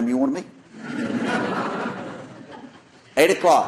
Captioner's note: laughter